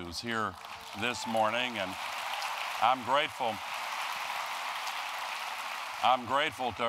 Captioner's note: applause